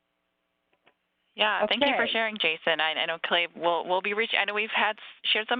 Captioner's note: laugh